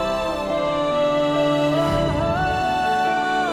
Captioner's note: emotional vocalising